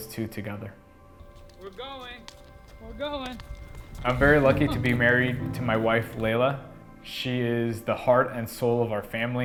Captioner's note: running